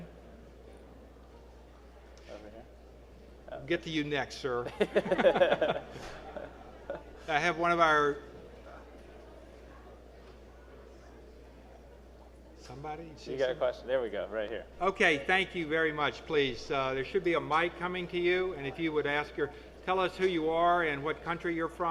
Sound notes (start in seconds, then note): 4.6 chuckling